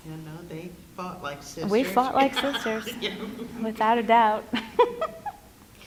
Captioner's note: laugh